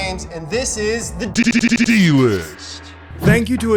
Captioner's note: digital Voice